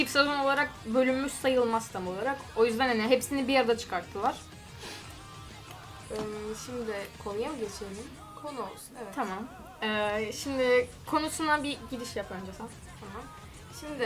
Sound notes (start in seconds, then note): 6.0 rambling